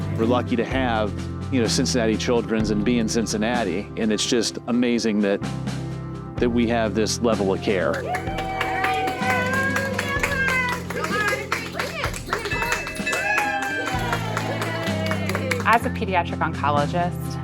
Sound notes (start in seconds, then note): 12.3 bell Ringing